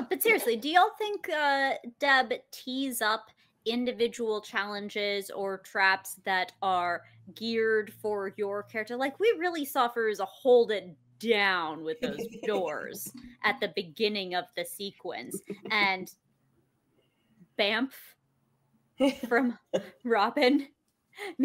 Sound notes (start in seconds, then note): 12.0 laughs; 15.3 chuckles; 19.2 laughs